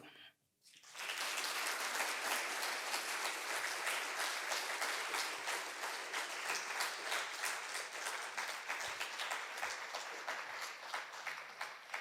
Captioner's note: applause